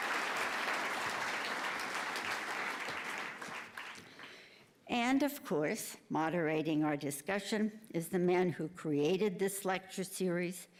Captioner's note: applause